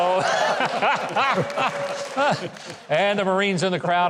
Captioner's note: everybody laughing